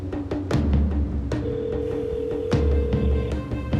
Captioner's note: line ringing